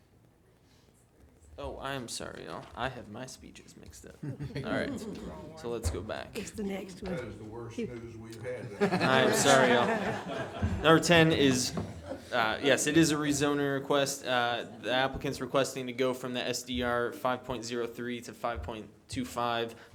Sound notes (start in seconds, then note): 4.1 chuckling; 8.3 laughing